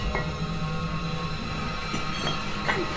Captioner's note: door creaks open